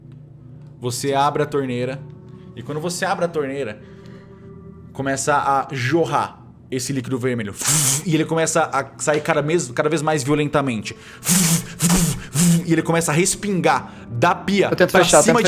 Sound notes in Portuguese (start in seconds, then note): 0.7 cochichando